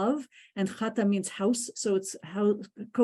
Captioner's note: ukrainian